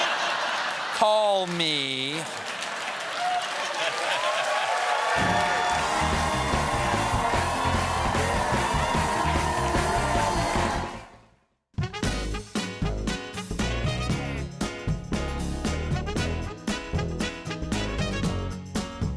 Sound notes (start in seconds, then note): 2.5 cheers and applause; 3.5 laughter